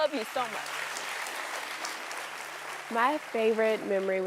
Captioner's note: audience clapping